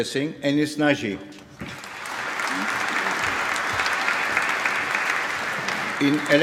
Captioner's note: applause